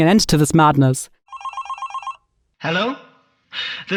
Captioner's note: phone ringing